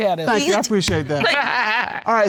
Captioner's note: laughs